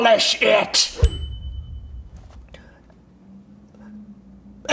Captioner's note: bell dinging